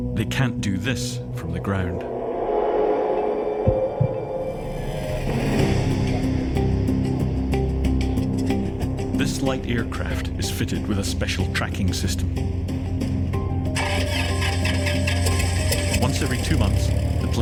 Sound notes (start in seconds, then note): 4.1 tense music; 13.7 engine revs